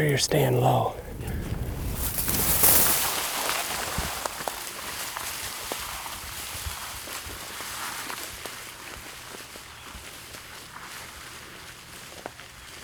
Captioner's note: walking, crunching noises